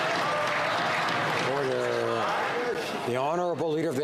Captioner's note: some Applause